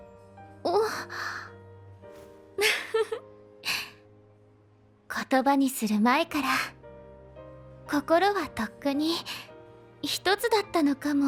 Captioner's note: laughs